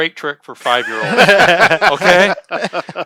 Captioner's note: laughs